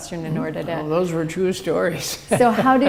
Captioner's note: chuckle